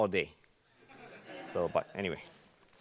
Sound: laughing

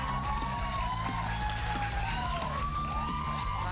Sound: cheers and applause

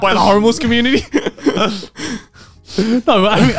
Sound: laughing

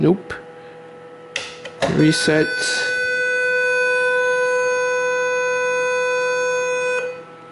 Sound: beeps; long beep

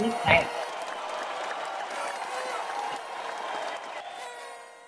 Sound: audience applauding

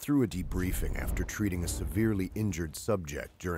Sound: voiceover

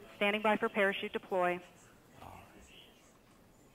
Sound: female Radio Voice

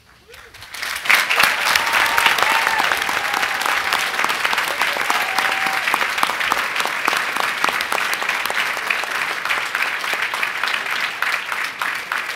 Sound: applause

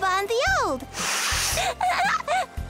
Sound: sniffs

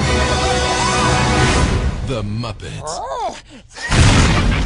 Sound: explosion

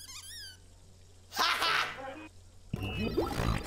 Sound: not all that convincing false laughter

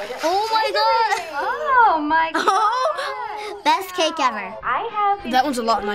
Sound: laughing

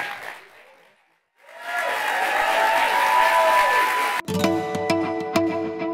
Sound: applause

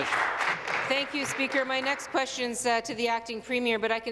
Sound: applause

